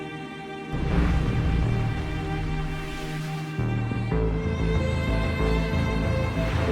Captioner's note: electronic whirring